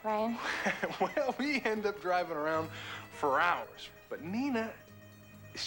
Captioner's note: chuckling